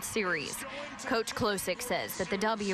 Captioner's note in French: Cheers